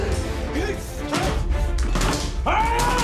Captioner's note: axe hitting door